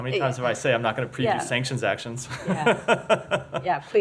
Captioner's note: laughter